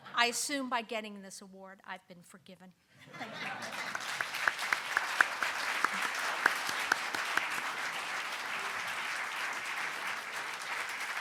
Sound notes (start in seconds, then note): 3.0 audience laughing; 3.3 audience applauding